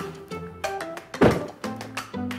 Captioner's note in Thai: เสียงปิดประตู